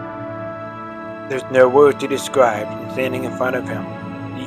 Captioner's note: voiceover